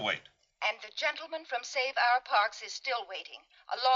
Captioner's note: intercom